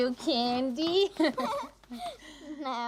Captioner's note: both laughing